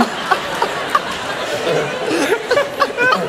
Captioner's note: laughter